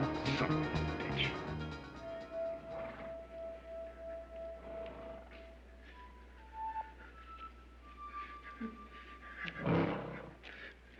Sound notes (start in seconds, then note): 2.7 horse nickers; 4.5 arnie breathing heavily